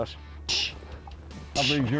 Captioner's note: imitates slapping sound